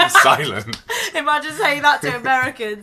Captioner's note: laughs